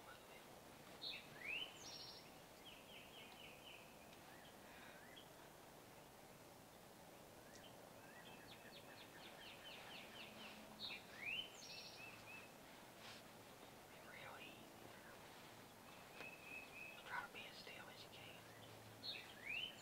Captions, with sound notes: (whispers) (birds chirping) - You gotta be as still as you can.